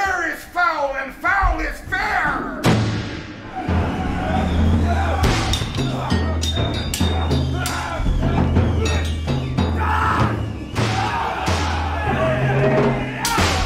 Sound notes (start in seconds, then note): 2.8 screaming, swords ping